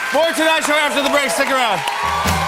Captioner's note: cheers and applause